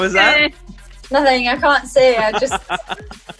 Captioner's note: laughs